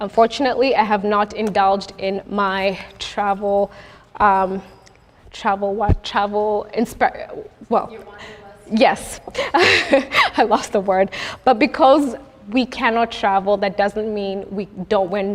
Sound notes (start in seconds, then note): 9.3 laughs